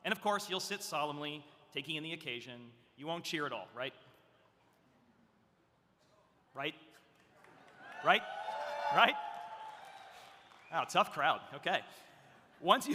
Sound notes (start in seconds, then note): 7.7 audience cheering